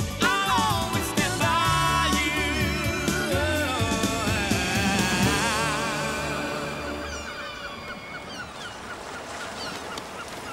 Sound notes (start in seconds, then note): 6.2 birds cawing